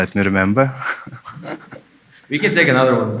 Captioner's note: chuckling